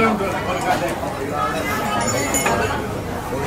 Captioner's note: chatter